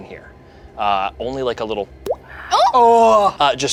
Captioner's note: boinks